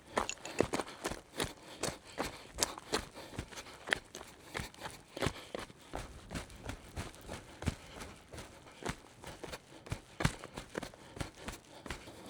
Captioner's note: footsteps crunching